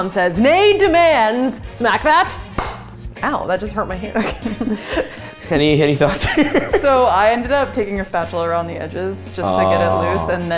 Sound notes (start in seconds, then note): 2.5 hand smacking container